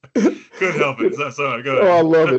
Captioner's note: laughing